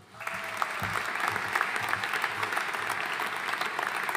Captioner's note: audience applauding